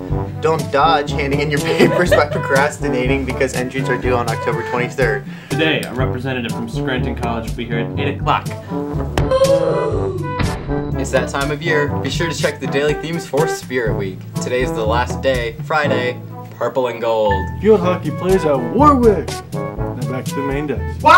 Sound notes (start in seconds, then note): 9.1 Roblox oof